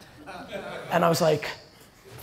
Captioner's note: audience laughter